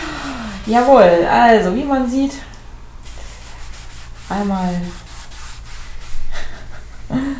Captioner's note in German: Ba-Dumm Tssss; lacht